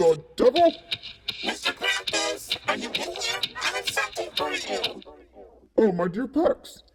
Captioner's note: hooves walking